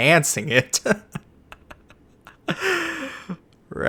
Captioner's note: foreshadowing laughter